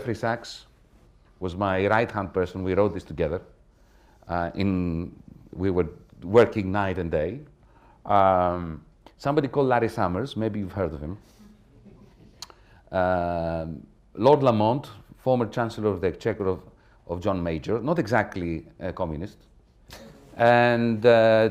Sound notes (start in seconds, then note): 11.4 laughter